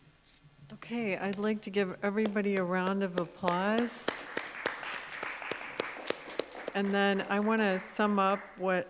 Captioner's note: applause